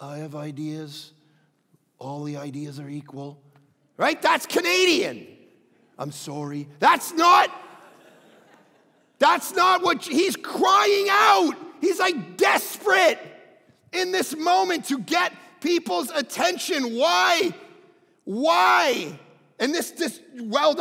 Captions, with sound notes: All the ideas are equal." Right? That's Canadian. "I'm sorry." (crowd laughing) He's crying out. He's desperate in this moment to get people's attention. Why? And this just welled up in me as I read this,